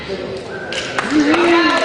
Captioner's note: cheering